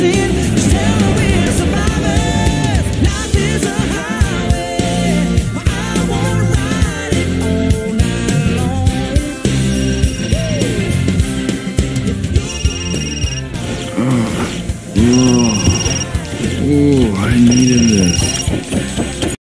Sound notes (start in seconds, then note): 9.3 phone Ringing